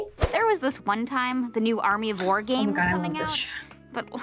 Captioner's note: gasps